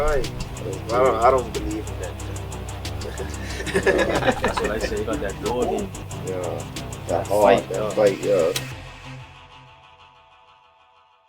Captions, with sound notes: (laughs) -That heart. -That fight yeah. (upbeat music ends)